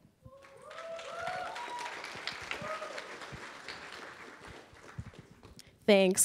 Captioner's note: applause